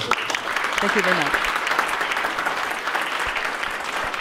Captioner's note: applause